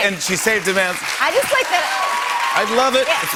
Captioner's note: cheers and applause